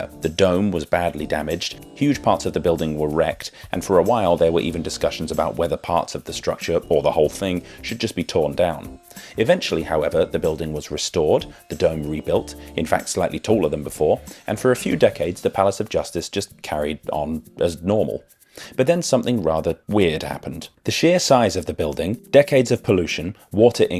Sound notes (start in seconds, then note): none